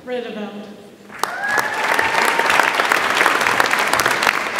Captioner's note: audience applauds